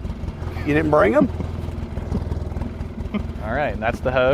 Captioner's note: chuckles